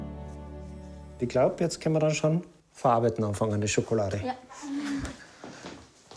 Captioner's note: speaking in foreign language